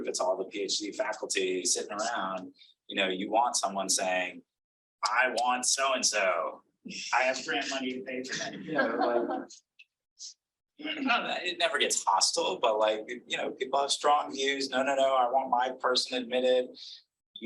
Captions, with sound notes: it's all the PhD faculty sitting around, you know, you want someone saying, "I want So-and-So. I have grant money to pay for that." (audience laughing) It never gets hostile but like, you know, people have strong views. "No, no, no, I want my person admitted.